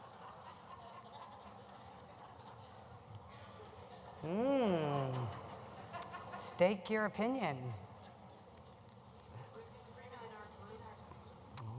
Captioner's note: laughter